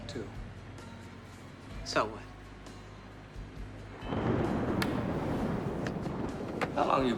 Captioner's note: thunder